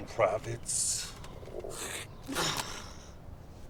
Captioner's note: Samson spits